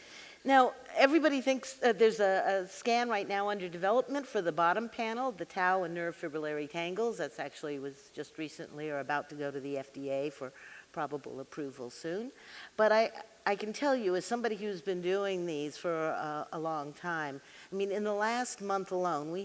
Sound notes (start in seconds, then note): none